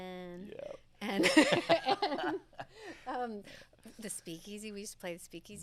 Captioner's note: laughing